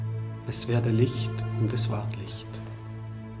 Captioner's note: speaking in German